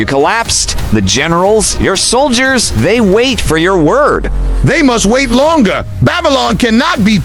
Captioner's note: hoarse